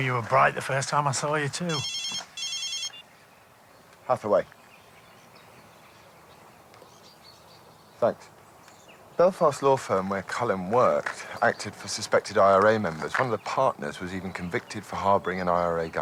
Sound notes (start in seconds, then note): 1.5 phone rings